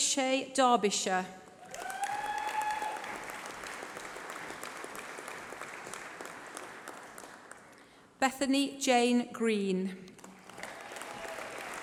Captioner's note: applause